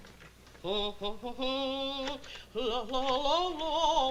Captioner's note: humming